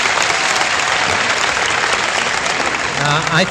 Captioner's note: applause